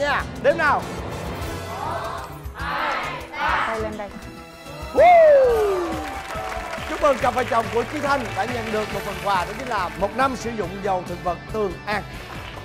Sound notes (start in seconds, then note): 5.0 whistling; 5.6 clapping